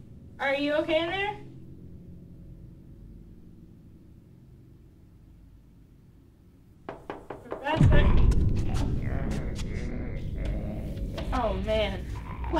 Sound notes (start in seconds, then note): 6.9 banging on door; 9.4 zombie snarls